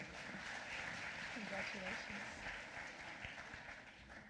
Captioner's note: applause